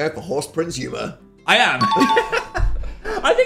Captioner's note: bell dings; laughs